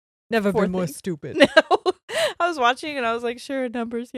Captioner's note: laughs